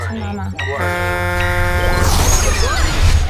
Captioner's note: spaceship horn honking